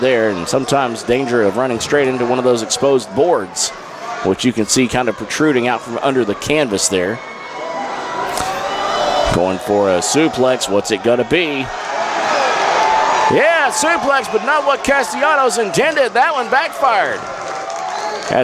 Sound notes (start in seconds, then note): 12.0 crowd cheers